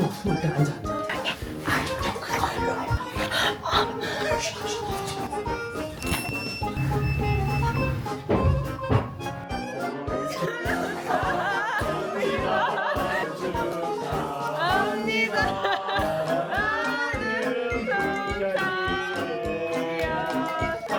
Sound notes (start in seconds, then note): 8.2 beep beep